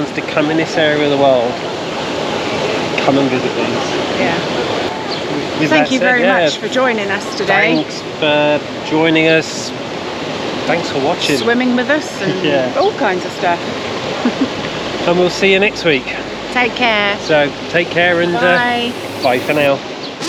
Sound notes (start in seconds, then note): 13.4 laughs